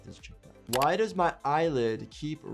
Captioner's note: keyboard keys clicking